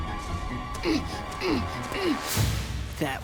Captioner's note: grunting